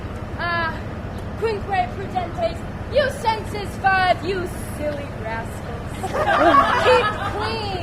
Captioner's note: laughter